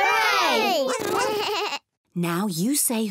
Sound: all make animal sounds

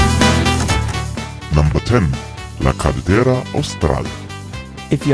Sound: male Voice

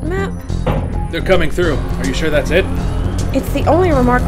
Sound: A sizzling sound erupts from the doorway

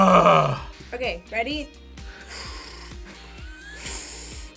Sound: blows; React laughs

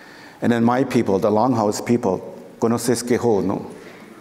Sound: foreign speaking

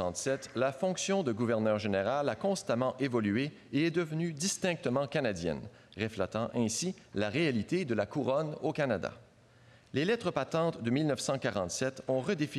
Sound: speaking French

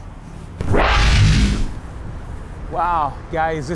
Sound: electronic whirring

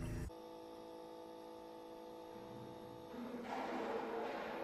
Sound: soft electric humming

